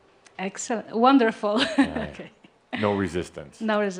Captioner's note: she giggles